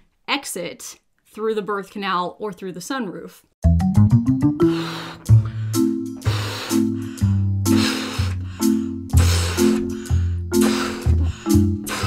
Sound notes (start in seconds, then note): 3.6 quirky music; 4.5 blowing